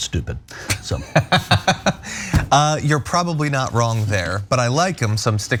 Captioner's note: laugh